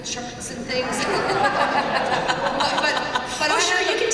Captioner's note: laughter